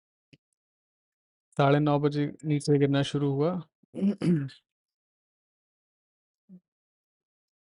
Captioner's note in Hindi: गला साफ़ करने की आवाज़